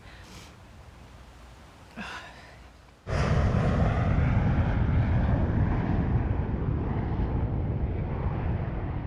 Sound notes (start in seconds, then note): 3.0 plane engine roaring